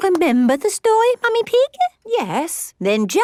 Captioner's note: none